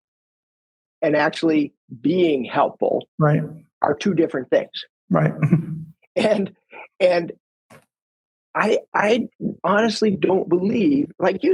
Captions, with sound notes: and actually being helpful. - Right. - Are two different things. - Right. (chuckles) - And I honestly don't believe, like you said,